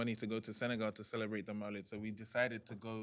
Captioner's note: non-english; non-english